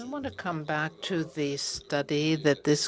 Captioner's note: speaking French